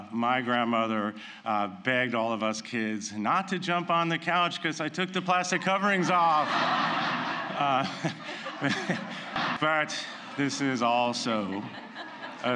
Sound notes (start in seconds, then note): 7.8 laughter